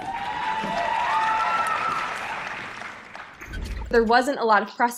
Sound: applause

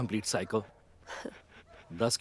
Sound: chuckles

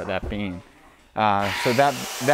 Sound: power saw buzzing

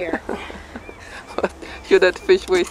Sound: chuckling

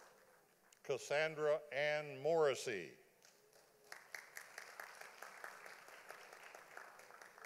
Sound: audience applauding

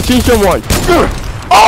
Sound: loud gunshot

